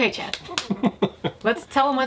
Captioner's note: laughs